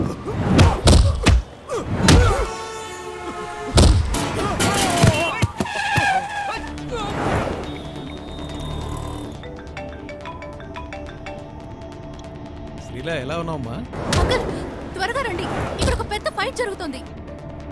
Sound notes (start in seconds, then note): 5.6 Brakes squeal; 8.5 Phone rings